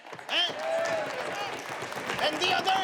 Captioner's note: people clapping